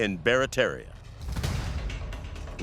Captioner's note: cannon booming